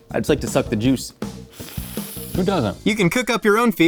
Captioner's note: slurps